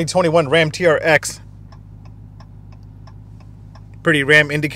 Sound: indicator clicking

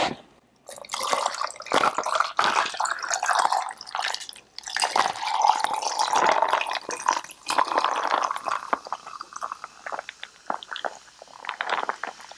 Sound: fizzing sounds

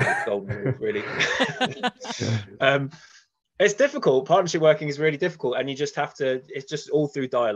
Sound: laughs

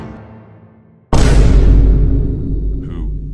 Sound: boom

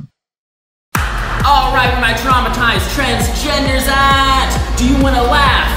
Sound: yelling over dance music

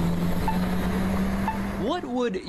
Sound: / :nats of cars

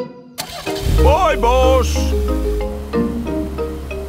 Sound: car engine starts

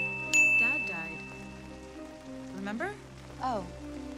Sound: dinging

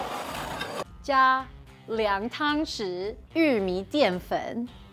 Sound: speaking in mandarin

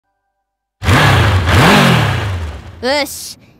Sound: vroom vroom

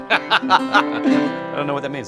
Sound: laughing

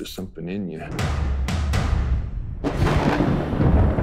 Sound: knocks

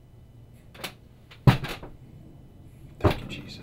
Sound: chair slams floor

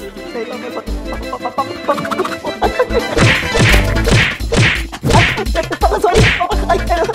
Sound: beating

